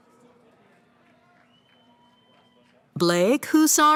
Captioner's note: cheering